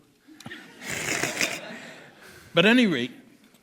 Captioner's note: laughter